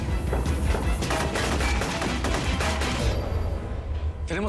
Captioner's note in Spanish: Disparos